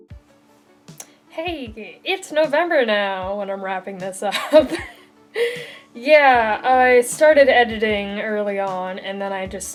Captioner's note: laughs